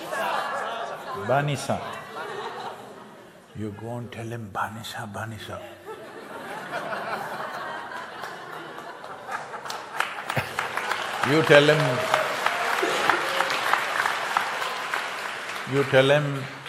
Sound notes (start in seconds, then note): 9.9 few laugh